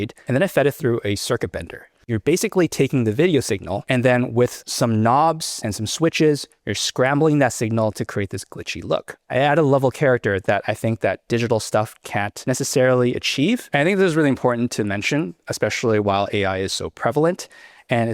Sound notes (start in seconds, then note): none